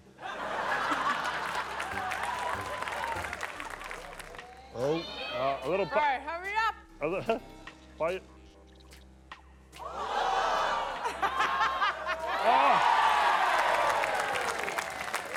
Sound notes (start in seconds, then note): 0.1 laughter; 8.0 stammers; 10.0 audience gasps; 10.0 cackles; 13.0 cheering